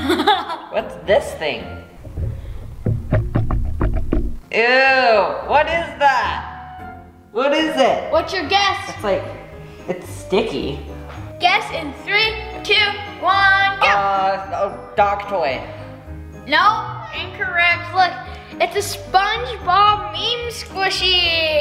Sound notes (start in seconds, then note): 0.0 laughs; 3.4 water sloshing